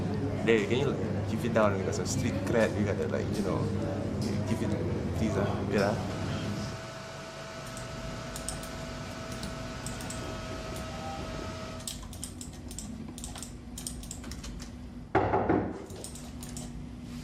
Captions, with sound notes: Hey for real, keep it down. Street cred, you know? [mouse clicking] [door knocking]